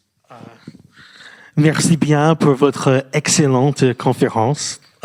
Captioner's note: speaking french